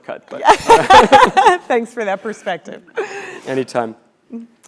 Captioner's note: laugh